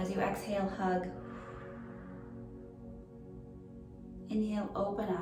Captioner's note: pursed lips breathing